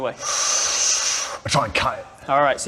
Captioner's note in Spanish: Inhalación profunda